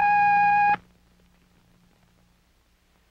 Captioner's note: long beep